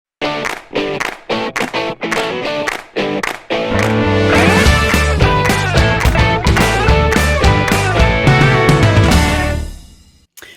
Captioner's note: claps